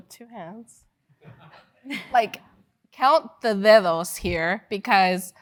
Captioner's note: laugh